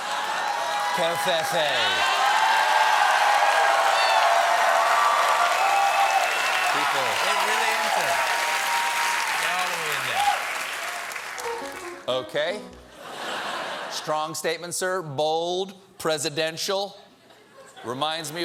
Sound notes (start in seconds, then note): 5.3 cheers and applause; 5.3 piano riff